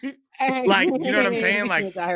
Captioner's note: laughter